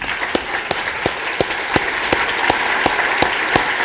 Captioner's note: applause